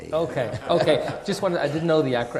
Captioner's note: audience laughing